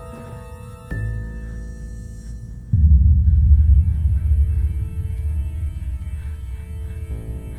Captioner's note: suspenseful music; Quinn breathes rapidly